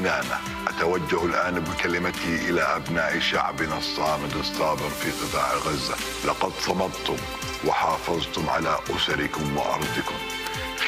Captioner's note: speaking Arabic